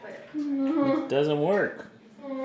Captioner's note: groans